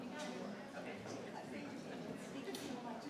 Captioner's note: speaks faintly